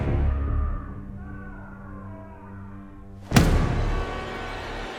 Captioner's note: distant screaming; dramatic music